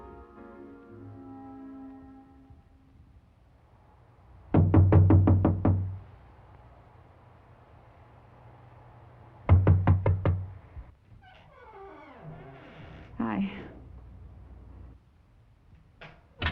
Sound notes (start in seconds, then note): 4.5 knocking